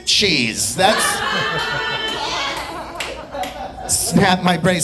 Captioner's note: audience laughing